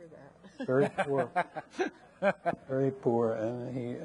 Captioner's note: laughing